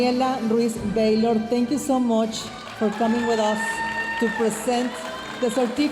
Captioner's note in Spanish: hablando en inglés